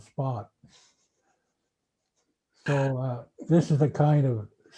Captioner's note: laughing